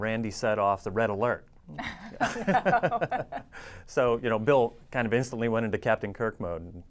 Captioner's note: laughs